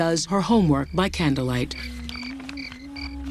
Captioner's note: humming